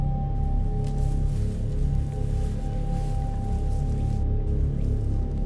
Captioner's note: undergrowth rustles